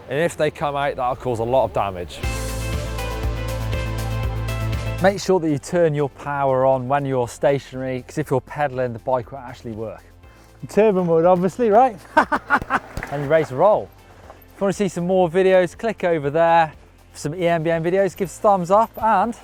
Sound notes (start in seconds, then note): 2.7 upbeat music; 12.0 laughing